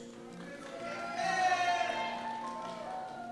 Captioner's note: cheers